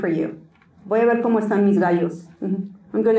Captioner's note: Spanish